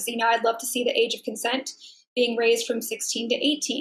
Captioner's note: none